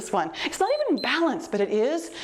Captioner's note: timer beeps